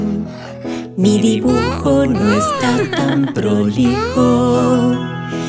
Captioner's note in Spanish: Risas